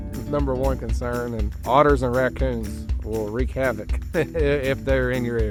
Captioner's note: laughs